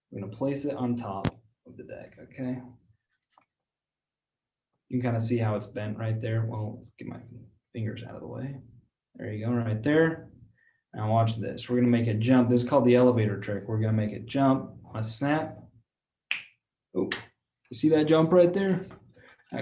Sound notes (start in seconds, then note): 17.0 snap